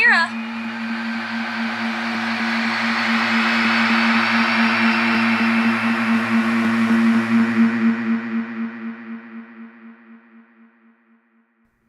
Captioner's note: humming and screams grow louder, and then fade out